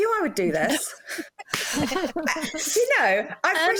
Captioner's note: laughter